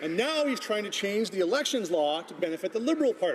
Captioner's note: none